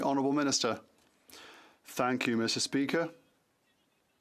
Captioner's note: chatter